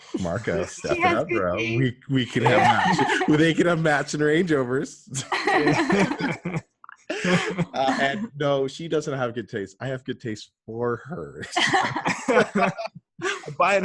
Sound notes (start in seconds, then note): 0.1 laughs; 5.1 laughter; 11.4 laughter